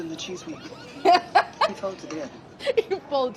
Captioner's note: laughing